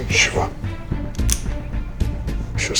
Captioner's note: gun clicks